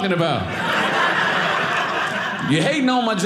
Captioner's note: audience laughing